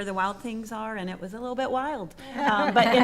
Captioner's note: attendees laughing